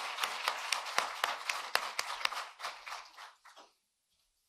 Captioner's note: cheering and applause